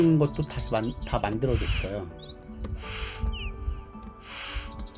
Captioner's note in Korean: 콧방귀